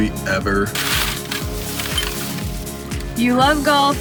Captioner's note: paper crinkling